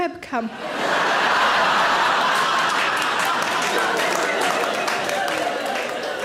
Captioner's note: audience laughing and clapping